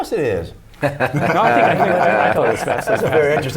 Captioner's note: laughter